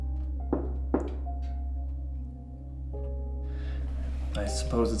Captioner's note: Dom taps twice